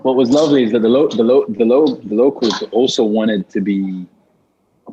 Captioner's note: stammers